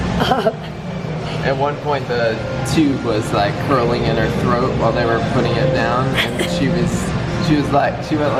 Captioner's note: laughs